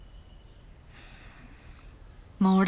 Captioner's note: sigh